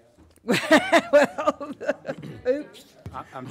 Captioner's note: laughing